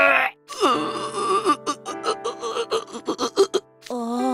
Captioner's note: crying